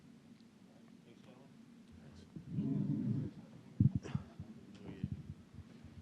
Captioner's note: indistinct chatter